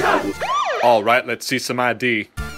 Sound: police siren

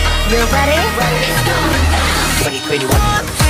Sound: riser

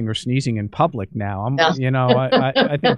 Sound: laughter

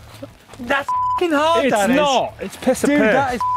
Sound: beep

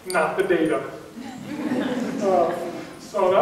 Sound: audience laughing

